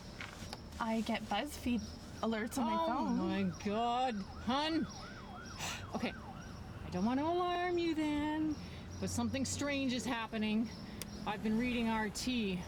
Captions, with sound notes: I get Buzzfeed alerts on my phone? Oh my god, hun! *Ambulance Passes in Background* Okay, I don't want to alarm you then... But something strange is happening... I have been reading RT and --